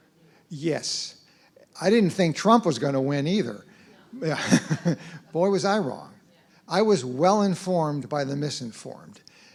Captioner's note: laugh